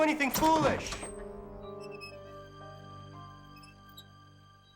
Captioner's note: swing squeaking